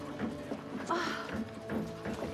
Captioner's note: sighs